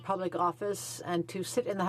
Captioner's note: speaking French